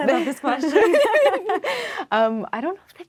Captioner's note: laughing